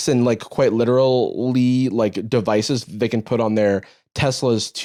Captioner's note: none